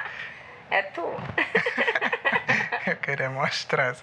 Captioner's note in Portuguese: risadas